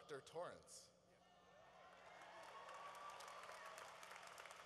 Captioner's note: cheering